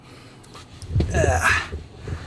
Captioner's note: grunts